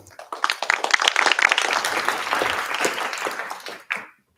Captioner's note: applause